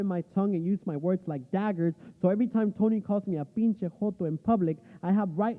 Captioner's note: speaking spanish